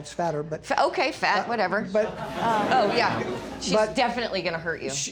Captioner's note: audience laughing